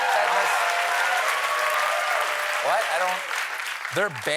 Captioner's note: cheers and applause